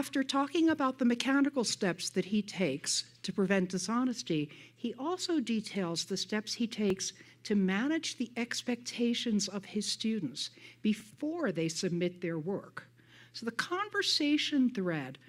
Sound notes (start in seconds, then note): none